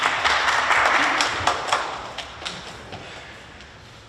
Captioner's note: clapping